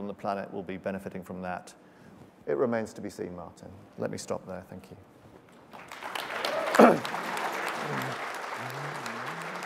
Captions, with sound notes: on the planet will be benefiting from that, it remains to be seen Martin. Let me stop there, thank you. (applause)